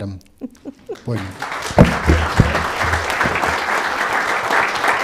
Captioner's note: laughs; audience clapping